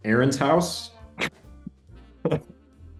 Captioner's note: laughing